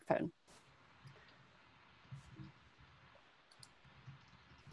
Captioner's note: mouse clicking